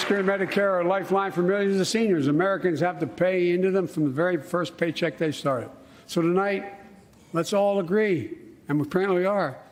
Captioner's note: applause